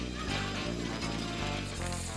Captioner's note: upbeat jazz music; group chattering; cards rustling; slot machine ringing